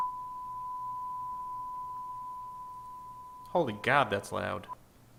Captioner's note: no signal beep